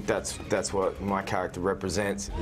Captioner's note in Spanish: hablan inglés